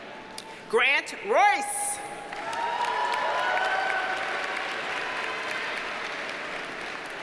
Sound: audience cheers and applauds

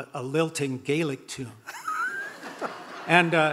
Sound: audience laughing

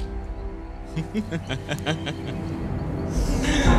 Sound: bodeful laughter

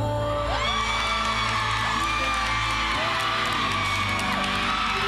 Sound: audience cheering

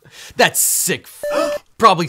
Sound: beep

